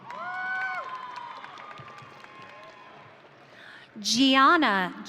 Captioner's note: audience cheering